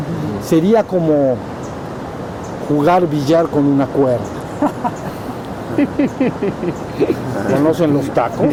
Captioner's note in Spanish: risas